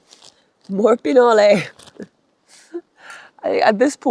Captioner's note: laughs